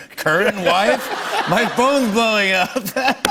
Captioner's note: laughter